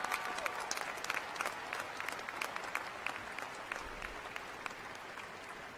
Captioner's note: cheers and applause